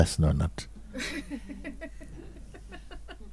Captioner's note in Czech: smích